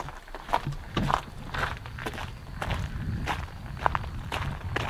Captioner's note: footsteps thudding